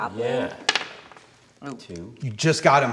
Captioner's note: die clacking